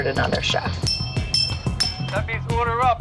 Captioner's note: bell dinging